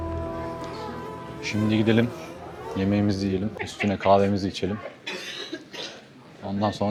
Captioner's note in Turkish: boğazını temizler